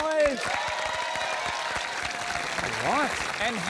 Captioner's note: cheering, applause